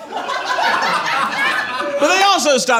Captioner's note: audience laughs